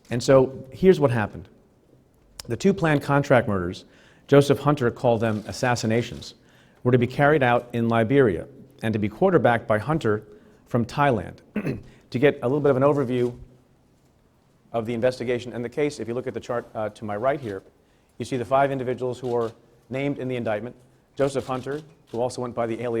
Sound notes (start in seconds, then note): 11.5 clears throat